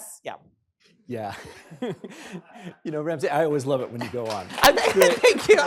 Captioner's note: chuckles